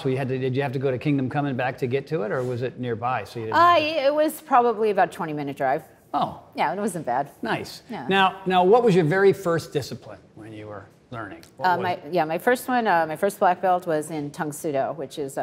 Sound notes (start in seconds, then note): none